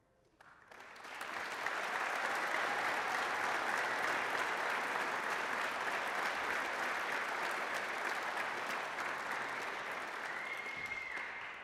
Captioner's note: applause